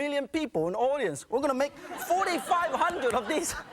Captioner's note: audience laughing